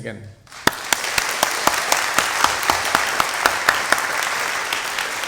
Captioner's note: applause